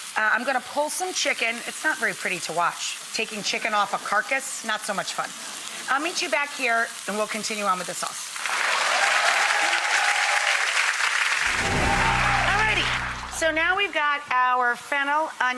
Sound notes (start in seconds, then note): 8.6 onions and bacon sizzling; 10.2 audience clapping and cheering